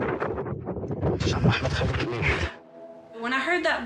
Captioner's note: low whispering